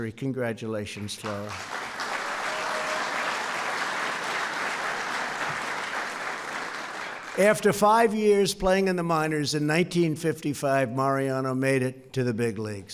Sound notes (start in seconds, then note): 0.9 applause